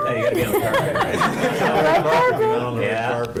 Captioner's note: laughing